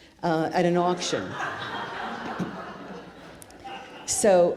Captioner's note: audience laughs